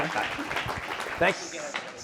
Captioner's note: audience applauding